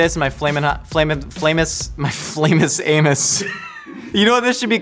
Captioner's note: laughs